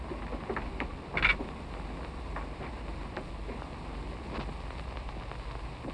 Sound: none

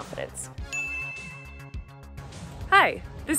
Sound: bell chimes

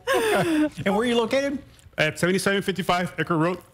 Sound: laughter

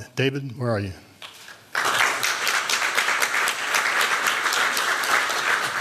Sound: applause

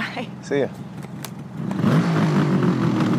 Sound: engine revving

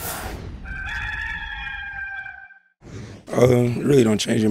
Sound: rooster crowing

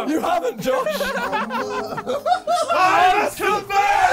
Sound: laughing

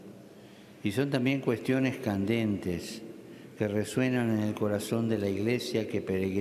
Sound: speaking Alternate Language

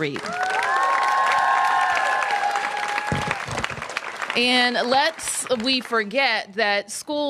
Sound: applause

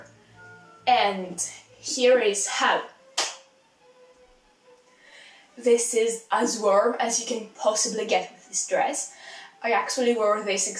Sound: clap

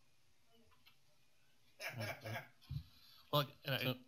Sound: laughter

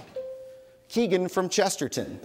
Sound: bell dings

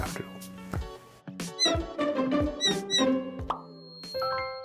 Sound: bird chirps

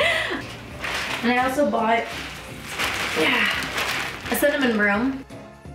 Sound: sighs

